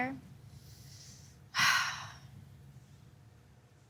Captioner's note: sighs